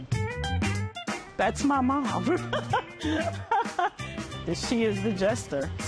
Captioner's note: laughs